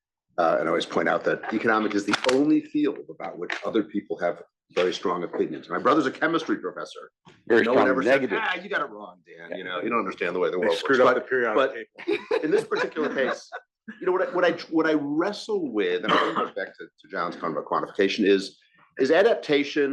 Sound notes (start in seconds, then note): 12.0 laugh